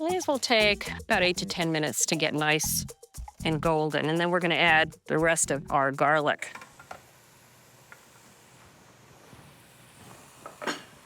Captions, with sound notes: These will take about 8 to 10 minutes to get nice and golden. And then we're going to add the rest of our garlic. (food sizzling)